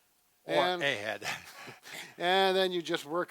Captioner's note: chuckles